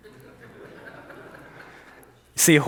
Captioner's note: audience chuckles